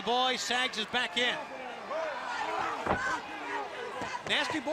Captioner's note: crowd chatter